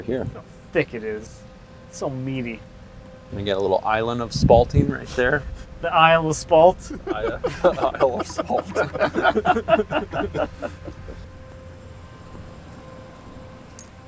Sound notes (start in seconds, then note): 6.5 men laugh